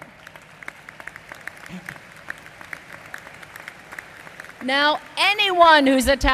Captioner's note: applause